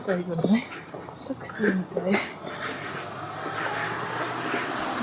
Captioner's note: laughs